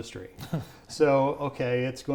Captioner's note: chuckles